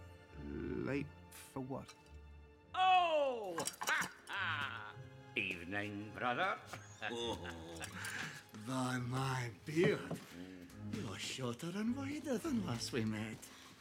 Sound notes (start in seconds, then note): 6.9 dwalin & balin chuckle